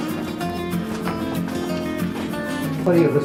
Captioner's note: people Chattering